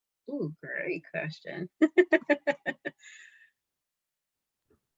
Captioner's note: laughs